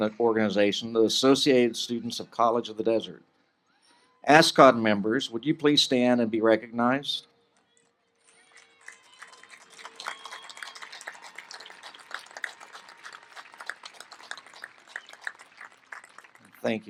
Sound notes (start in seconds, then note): 12.7 applause